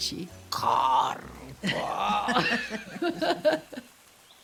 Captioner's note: both laugh